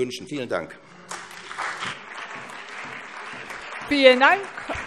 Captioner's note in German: Beifall SPD, CDU, BÜNDNIS 90/DIE GRÜNEN und vereinzelt DIE LINKE